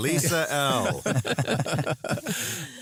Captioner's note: laughter